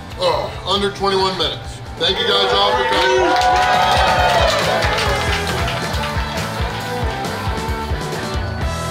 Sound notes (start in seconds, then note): 2.0 people cheer happily; 5.8 upbeat rock music